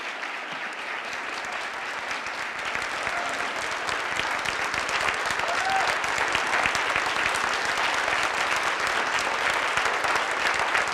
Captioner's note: applause